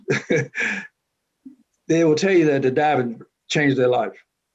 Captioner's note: chuckles